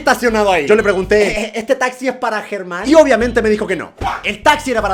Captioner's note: nervous giggle